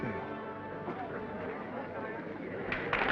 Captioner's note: attendees chattering; audience applauding; attendees cheering